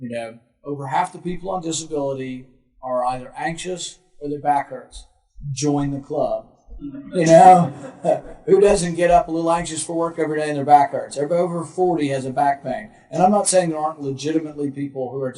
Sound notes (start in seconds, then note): 7.0 group laughing